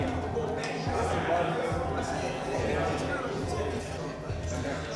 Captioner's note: indistinct chatter